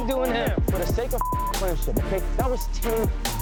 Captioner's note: beep